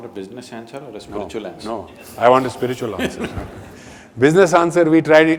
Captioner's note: Sadhguru laughs